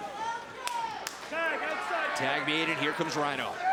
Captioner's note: crowd chatter